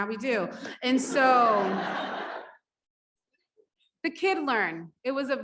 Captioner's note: audience laughs